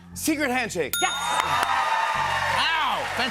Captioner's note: ding; cheers and applause